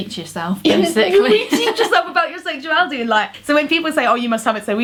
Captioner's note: laughs